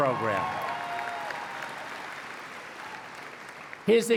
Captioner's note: applause